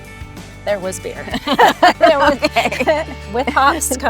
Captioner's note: both laughing